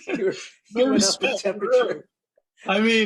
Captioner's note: laughter